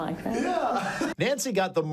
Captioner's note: laughs